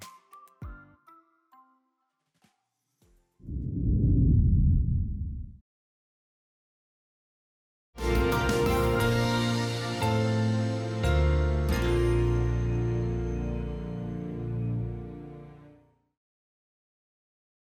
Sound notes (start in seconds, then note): 3.5 title thundering; 8.0 dramatic title music